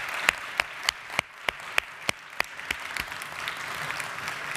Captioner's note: audience applauds